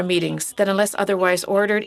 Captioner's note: speaking French